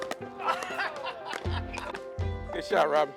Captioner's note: teammate laughs